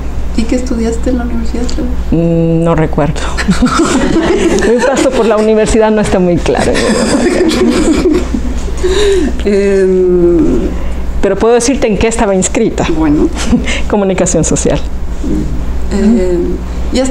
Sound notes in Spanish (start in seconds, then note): 6.6 Se ríen